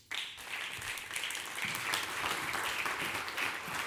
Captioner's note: audience applause